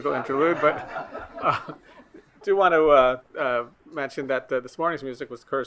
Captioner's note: attendees laughing